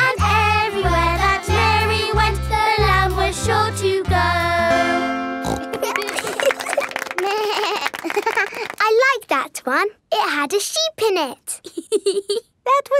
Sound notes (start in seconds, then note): 5.4 snorts; 5.6 laughing; 7.2 bleats and laughs; 11.6 laughs